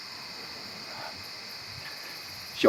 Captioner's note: light sigh